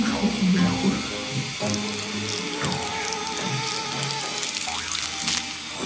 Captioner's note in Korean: 귓속에서 뿌지지직 하는 소리가 나는 중